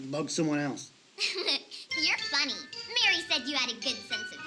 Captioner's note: giggles